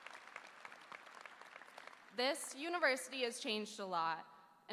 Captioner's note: applause